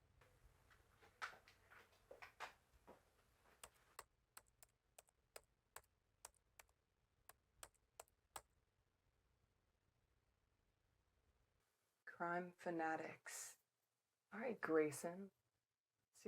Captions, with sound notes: (keyboard clacking) - "Crime Fanatics." All right, Grayson.